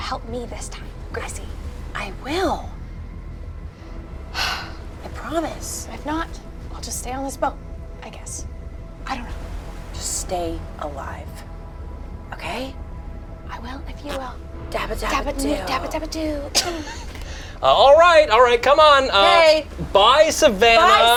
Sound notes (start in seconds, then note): 4.4 sighs